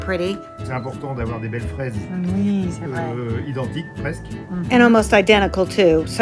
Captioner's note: speaking in French